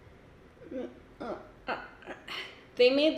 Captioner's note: grunts